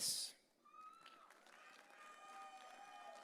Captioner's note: audience cheering